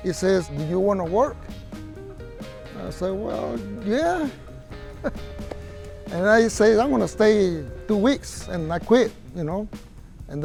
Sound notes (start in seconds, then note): 3.7 laughs